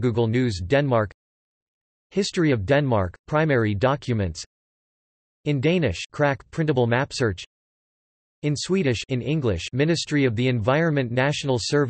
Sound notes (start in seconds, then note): 4.4 in Danish; 7.2 in Swedish